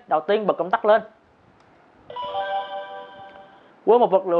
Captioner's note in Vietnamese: activation sound